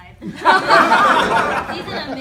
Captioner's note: laughter